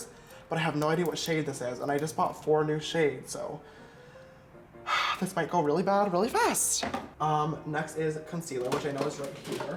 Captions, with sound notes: but I have no idea what shade this is, and I just bought four new shades, so... *sigh* This might go really bad, really fast. Um, next is concealer which I know is right here.